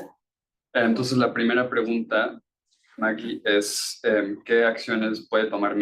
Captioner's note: speaking Spanish